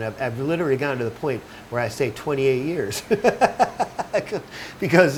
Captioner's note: laughing